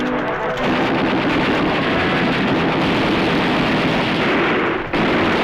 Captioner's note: gunfire